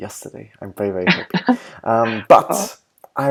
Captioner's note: laughter